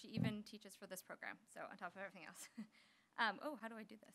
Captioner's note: chuckles